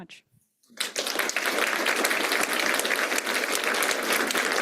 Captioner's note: applause